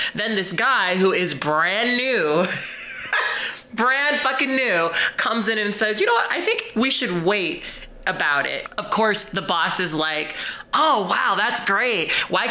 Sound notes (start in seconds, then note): 2.5 chuckles